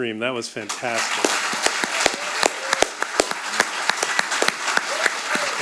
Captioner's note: audience applauding